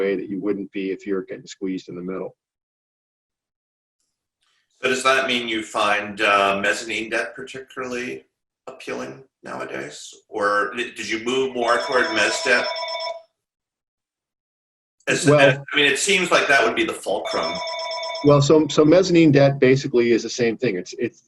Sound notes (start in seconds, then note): 11.4 phone ringing; 17.2 phone ringing